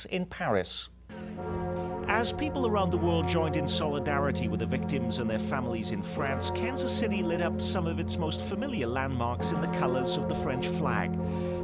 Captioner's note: bells ringing